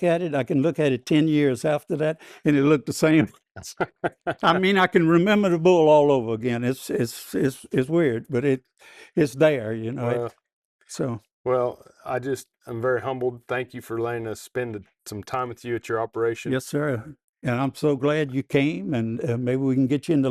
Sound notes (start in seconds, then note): 3.6 laughing